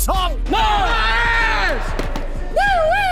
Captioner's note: group cheering